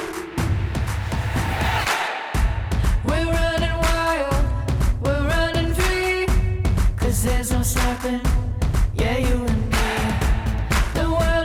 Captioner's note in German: Beifall